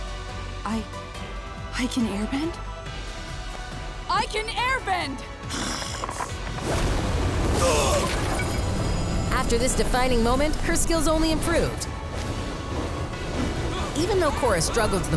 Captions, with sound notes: I... I can airbend? I can airbend! [groaning] After this defining moment, her skills only improved. Even though Korra struggled the most with learning